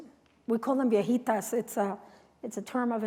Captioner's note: non-english speech